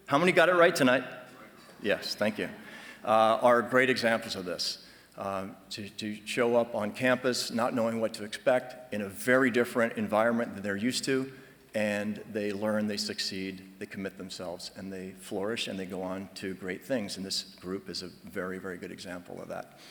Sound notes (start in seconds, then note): none